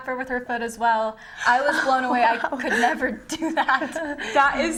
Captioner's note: laughing